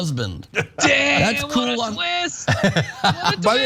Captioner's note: laugh